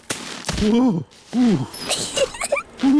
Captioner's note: groans; giggles